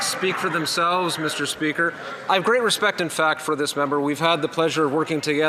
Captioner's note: some Applause